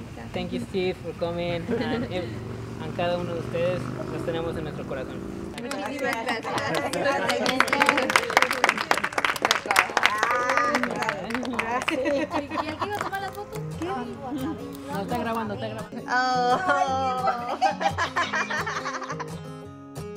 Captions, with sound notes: Thank you Steve for coming [Applause] oh